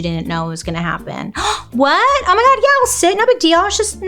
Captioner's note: gasps